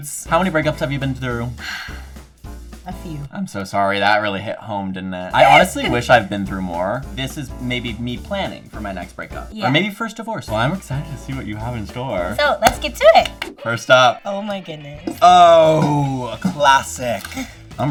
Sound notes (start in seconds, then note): 1.6 exhales sharply